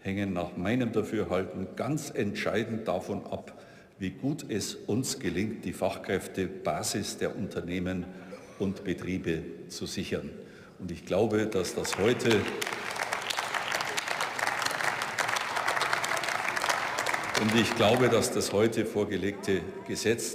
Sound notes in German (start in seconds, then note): 11.6 Beifall